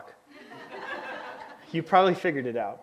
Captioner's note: audience laughs